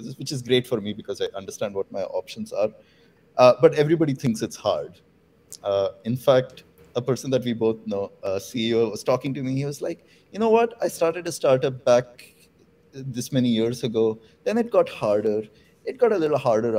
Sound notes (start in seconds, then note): none